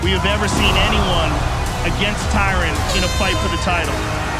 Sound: end of round horn blares

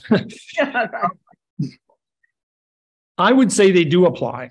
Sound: chuckles

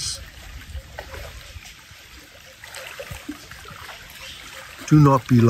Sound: water lapping

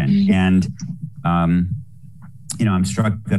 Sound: laughing

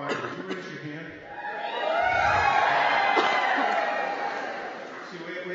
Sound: cheering

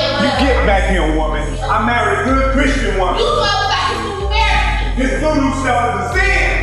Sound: arguing

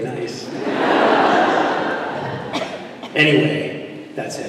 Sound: laughter

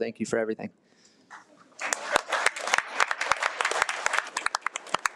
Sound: audience applauding

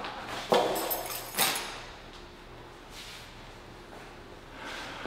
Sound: keys rattling

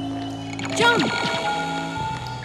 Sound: eerie music; lasers firing

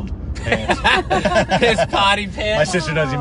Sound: laughing

